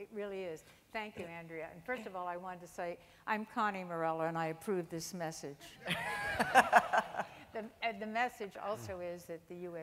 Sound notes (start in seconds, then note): 5.8 laughing